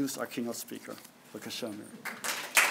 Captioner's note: speaking hebrew